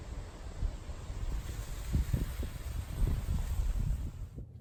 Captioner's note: mysterious spiritual wind blows